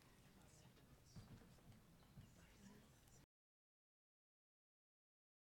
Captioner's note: people chattering